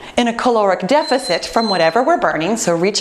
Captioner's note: beeping